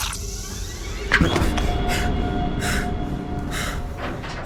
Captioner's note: squishing; gasping